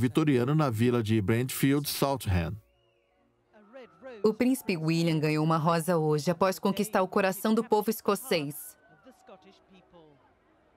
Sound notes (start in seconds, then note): 3.0 voiceover